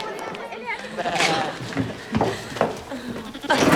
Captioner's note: sheep bleating; giggling